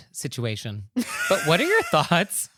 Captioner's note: laughter